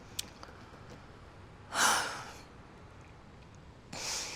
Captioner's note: Kate sighs